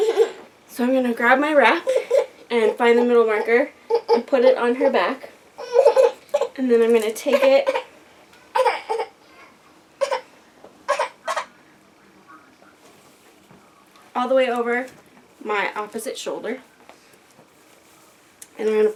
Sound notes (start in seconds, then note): 8.3 toddler: whiny noises